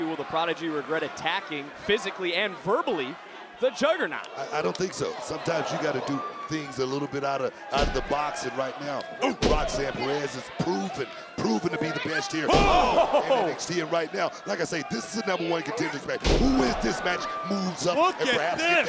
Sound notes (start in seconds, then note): 12.5 body thudding